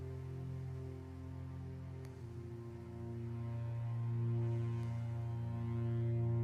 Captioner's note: none